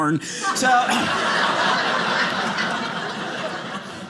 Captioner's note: audience laughing